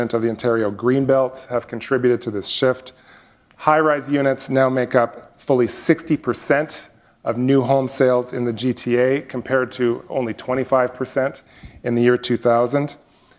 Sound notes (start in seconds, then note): none